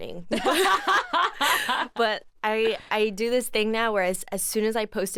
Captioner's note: both laugh